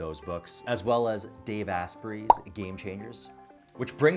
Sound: pop

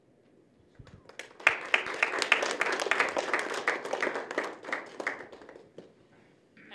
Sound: applause

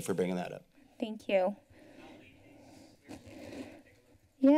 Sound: breathes heavily

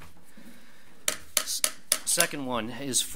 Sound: gavel bangs

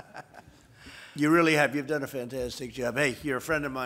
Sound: laughter

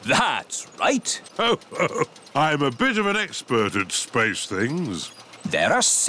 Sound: chuckles

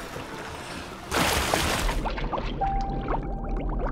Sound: bubbling; gentle music

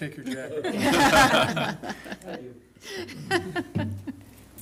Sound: laughter

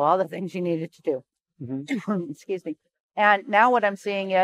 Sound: coughs

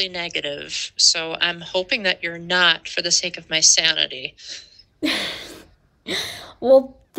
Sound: laughter

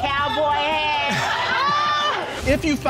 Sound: audience exclaims

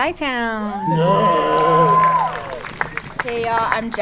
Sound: audience cheering

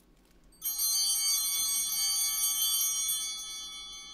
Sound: bell ringing

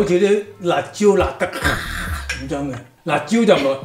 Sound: roar

